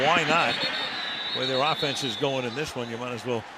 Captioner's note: whistle blows